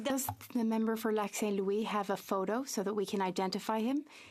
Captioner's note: speaking French